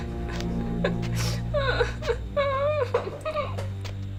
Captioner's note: cries some more